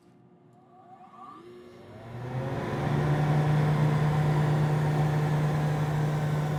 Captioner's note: air vent blowing